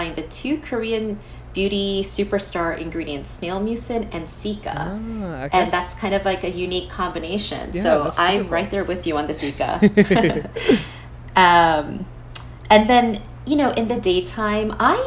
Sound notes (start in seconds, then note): 9.4 both chuckles